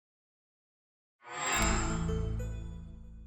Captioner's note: chime